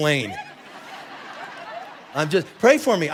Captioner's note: congregation laughing